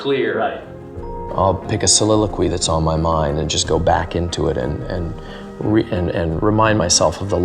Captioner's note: narrating